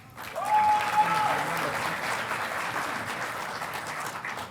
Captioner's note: audience applauding